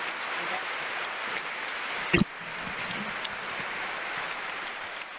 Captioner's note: congregation applauding